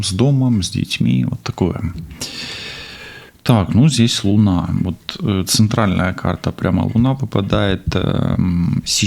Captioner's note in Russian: тяжело вздыхает